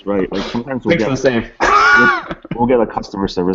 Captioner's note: laughing